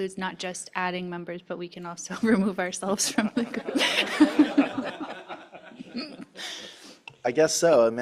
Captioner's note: laughter